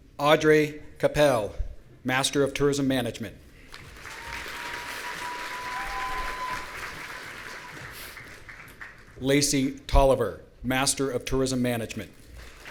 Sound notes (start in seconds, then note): 4.0 audience cheering; 12.4 audience applauding